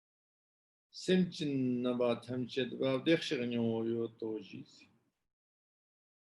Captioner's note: tibetan